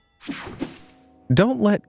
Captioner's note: air whooshing